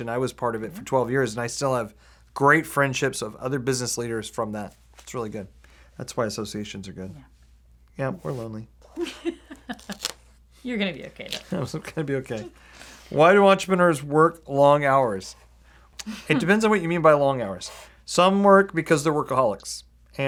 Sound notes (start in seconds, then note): 9.0 laughs; 11.6 laughing